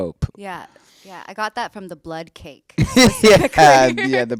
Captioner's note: laughs